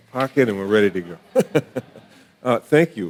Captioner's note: laughing